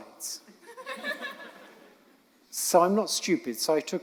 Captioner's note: audience laughing